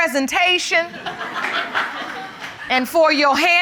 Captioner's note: laughter